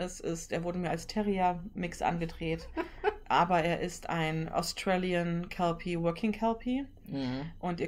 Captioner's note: laughs